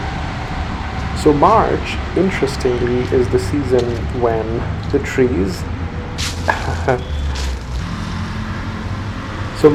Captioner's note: rustling of a lot of fallen leaves